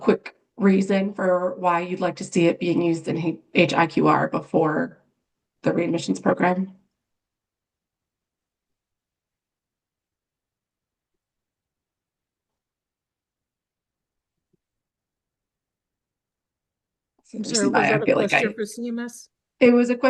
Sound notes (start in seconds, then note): 7.7 pause